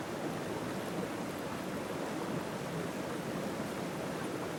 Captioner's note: rushing water